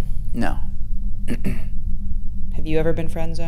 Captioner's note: clears throat